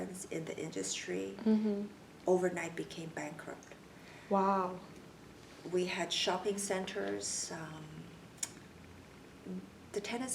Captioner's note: clicks tongue